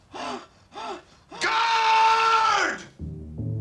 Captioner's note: breathing heavily